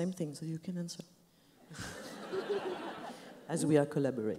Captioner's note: laughs